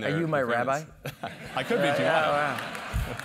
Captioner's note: laugh